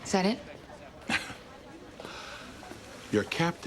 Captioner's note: chuckling